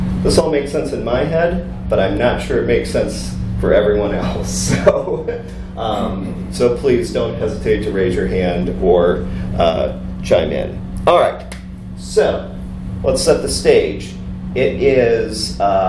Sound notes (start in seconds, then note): 5.9 laughs